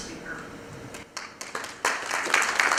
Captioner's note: applause